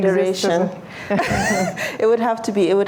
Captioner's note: laughter